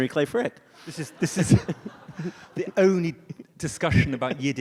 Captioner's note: audience laughs